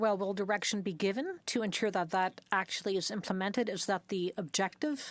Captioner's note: speaking French